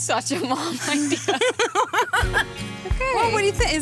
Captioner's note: laughter